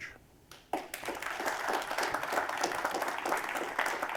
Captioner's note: applause